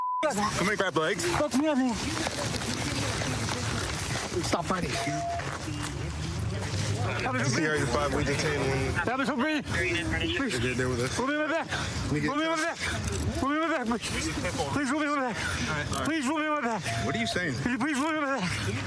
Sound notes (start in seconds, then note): 6.8 excited chatter